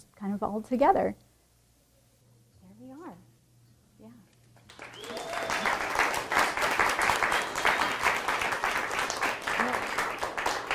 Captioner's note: applause